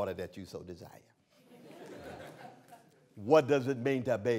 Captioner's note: laughter